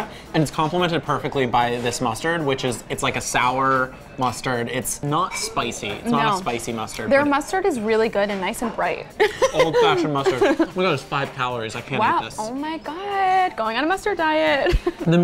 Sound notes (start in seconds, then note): 9.2 laughs